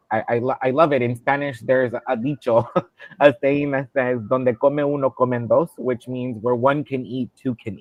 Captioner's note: speaking Spanish